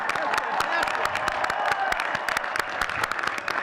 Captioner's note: all cheering and clapping